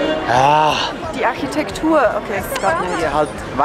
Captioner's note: in Swiss German